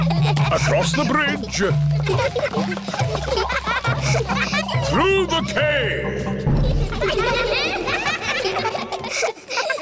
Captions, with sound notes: Across the bridge. (ECHOING) Through the cave.